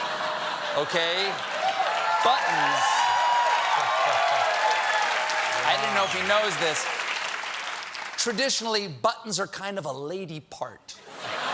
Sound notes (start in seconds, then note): 4.7 cheers and applause